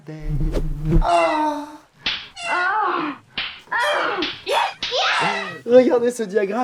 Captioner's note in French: gémissement féminin